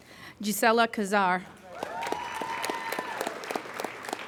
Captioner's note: applauding